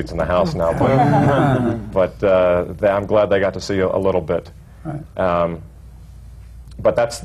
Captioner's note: laughter